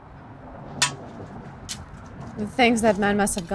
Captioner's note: traffic humming continues; shovel tapping